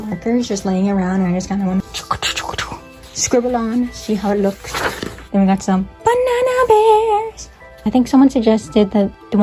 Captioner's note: scribble scribble